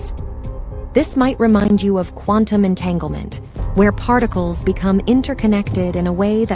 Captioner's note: voiceover